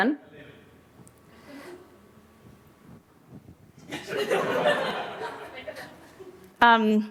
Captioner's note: laughter